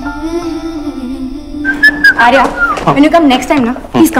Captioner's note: Arya whistles